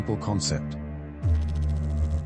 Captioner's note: electrical noise